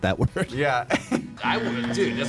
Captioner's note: laughs